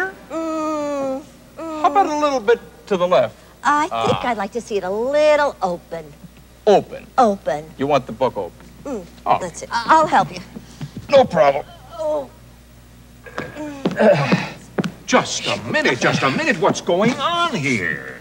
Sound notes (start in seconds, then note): 13.3 grunting